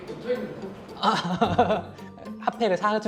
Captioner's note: forced laugh^^